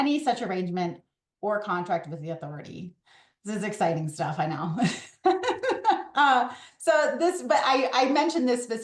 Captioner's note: laughs